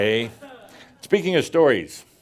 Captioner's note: some chuckles